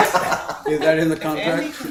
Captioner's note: laughter